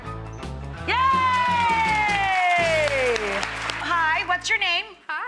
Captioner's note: audience applauding